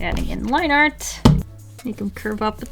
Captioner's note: drops eraser with a thud